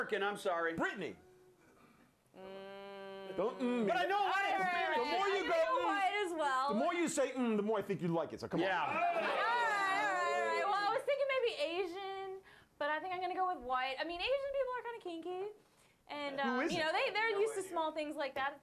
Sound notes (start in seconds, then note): 8.8 scattered cheers